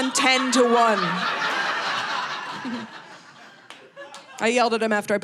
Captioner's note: audience laughing